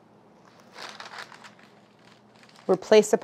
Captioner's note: paper crinkles